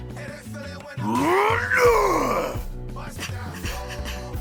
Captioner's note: shouts